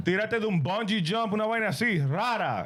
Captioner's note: speaking In Foreign Language